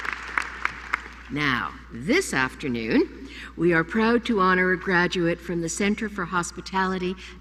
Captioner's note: applause